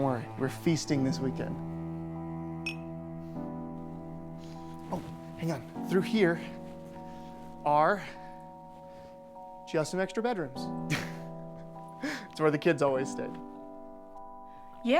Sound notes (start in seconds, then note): 2.6 glasses clinking; 10.8 chuckling